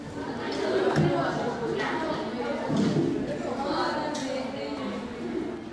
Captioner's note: indistinct student chatter